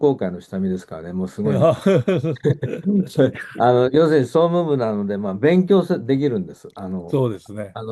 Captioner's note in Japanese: 笑い